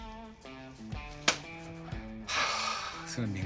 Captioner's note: sighs